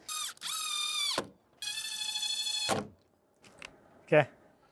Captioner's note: drilling sounds